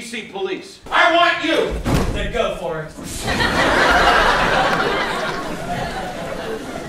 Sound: audience laughs

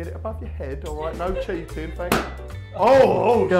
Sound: pop

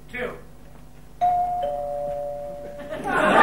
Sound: doorbell ringing; audience laughing

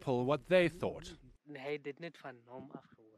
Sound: non-english speech

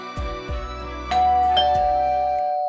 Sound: bell rings

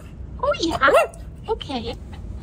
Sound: woof

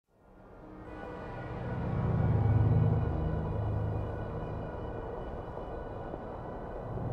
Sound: ominous ambient noise

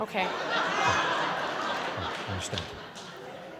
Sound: laughters

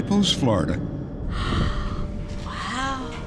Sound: gasp

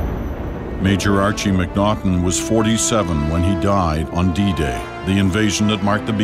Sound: voiceover

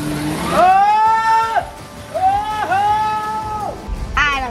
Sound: screaming

